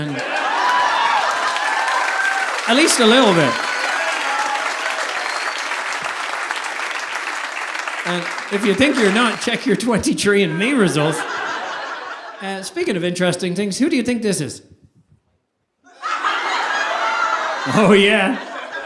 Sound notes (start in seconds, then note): 0.2 audience applauding; 4.4 audience applauding; 15.9 audience laughing